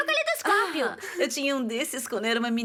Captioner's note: gasps